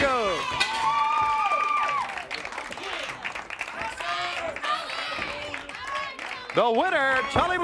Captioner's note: crowd cheering